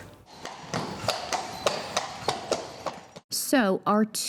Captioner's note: horse hooves clopping